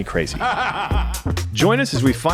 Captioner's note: character laughs